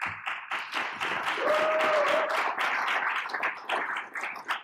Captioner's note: audience applauding